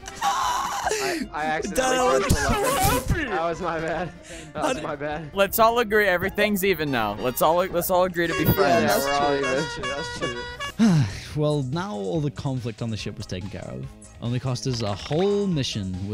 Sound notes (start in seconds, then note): 10.8 sigh